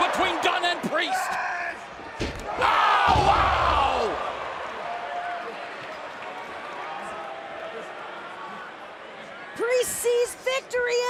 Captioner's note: crowd chatter